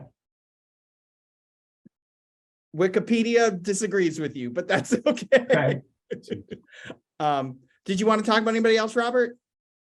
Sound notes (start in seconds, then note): 4.7 chuckling